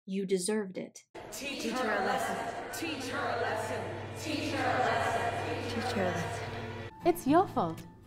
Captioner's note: all chanting